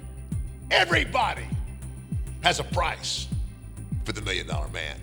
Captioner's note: laughing